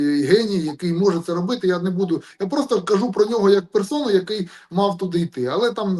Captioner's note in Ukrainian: прочищення горла